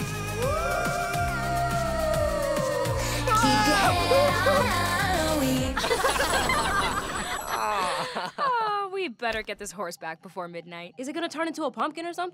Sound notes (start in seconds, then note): 5.4 laughing